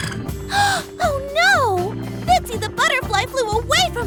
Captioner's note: gasps